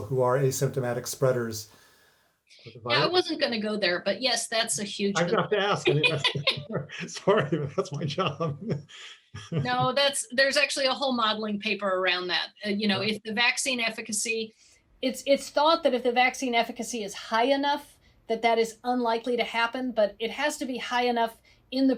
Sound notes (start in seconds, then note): 5.2 laughs